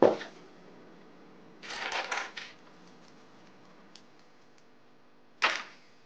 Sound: metal clanking

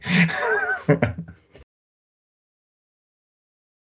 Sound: chuckling

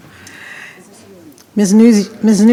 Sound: speaking faintly

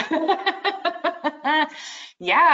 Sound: laughing

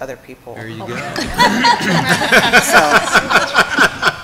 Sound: laughter

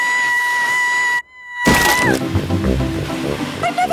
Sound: screaming

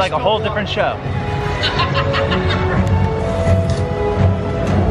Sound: laughing; dramatic music

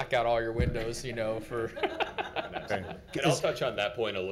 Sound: laughing

